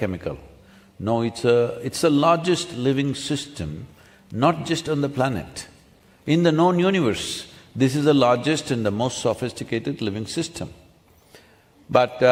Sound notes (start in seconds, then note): none